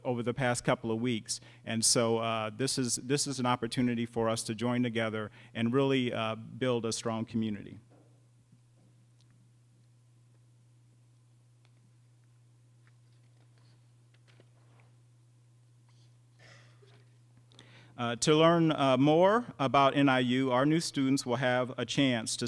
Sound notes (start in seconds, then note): 8.9 silence